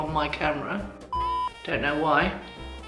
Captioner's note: beep